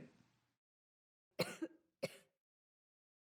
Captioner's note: coughs